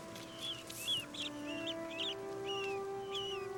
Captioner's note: mice squeaking; soft music